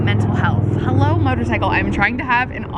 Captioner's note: motorcycle roars